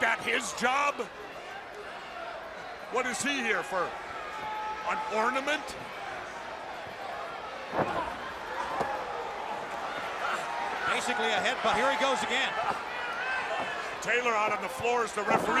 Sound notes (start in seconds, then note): 6.3 crowd chatter